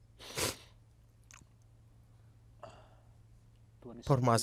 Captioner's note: sniffles